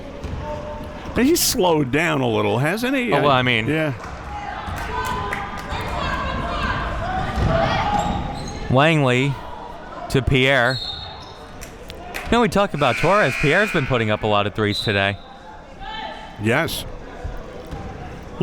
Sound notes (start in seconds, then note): 4.9 spectators shouting encouragements; 10.6 whistle being blown; 12.8 buzzer sounding